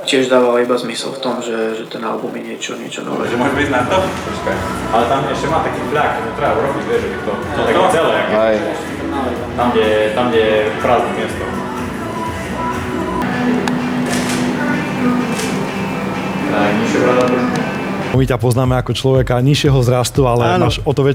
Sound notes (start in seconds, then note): 11.6 radio playing